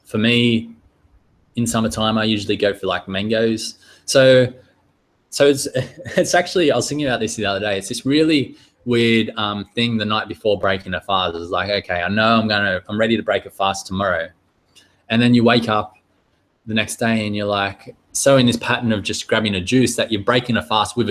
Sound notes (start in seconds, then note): 5.5 chuckling